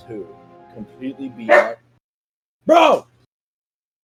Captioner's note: dog